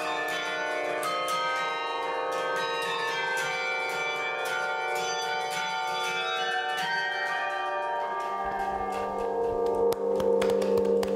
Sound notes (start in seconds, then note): 2.9 tower bells ringing; 9.6 applause